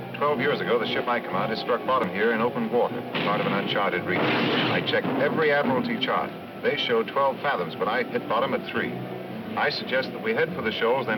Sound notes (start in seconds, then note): 3.1 cannon firing